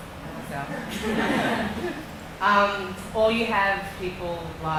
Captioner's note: laughing